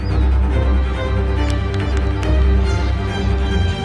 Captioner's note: clapping